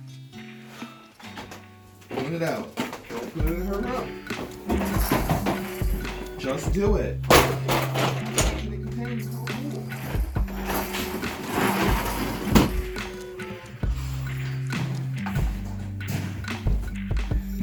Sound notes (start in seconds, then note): 7.5 muttering; 14.0 noisy house in the background